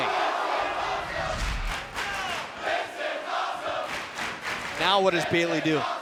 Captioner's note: crowd chanting "this is awesome"